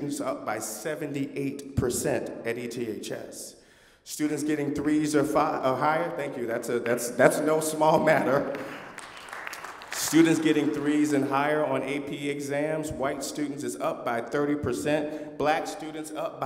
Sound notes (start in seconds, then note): 5.7 applause